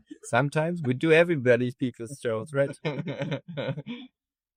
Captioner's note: laughs; laughs